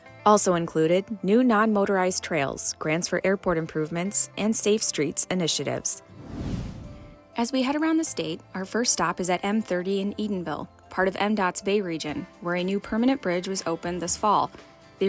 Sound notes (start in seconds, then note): 6.0 swoosh sound effect